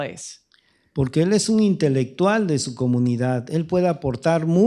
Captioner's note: speaking spanish